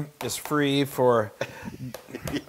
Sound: laugh

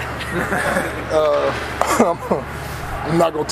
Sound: group laughing; chuckles

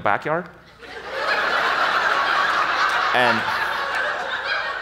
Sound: audience laughs

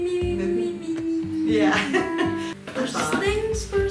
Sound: laughs

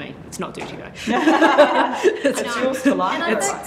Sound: laughters

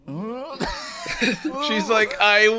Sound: laughing

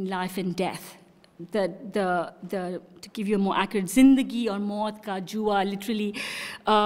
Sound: non-english speech

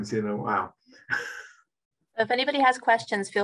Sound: chuckling

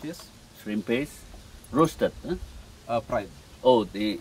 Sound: chef speaking

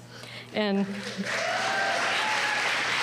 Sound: applause

